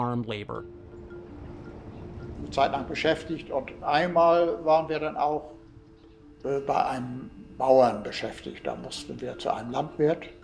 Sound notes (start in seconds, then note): 0.3 reflective music; 2.3 speaking in German